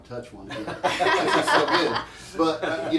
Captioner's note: all laugh